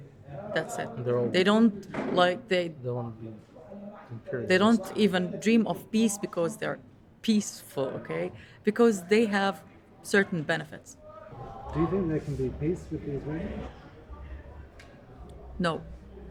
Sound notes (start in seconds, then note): 11.2 voiceover